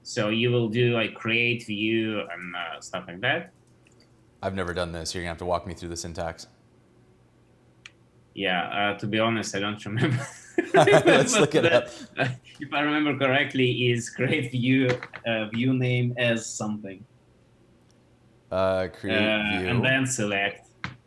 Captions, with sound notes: so you will do create, view, and stuff like that. - I've never done this. You're gonna have to walk me through the syntax. - Yeah, to be honest, I don't remember. (both laughing) Pretty much that. - Let's look it up. - If I remember correctly is create view, view name as, something. - Create view. - And then select.